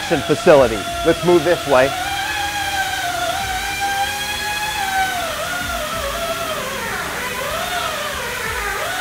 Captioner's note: sanding noises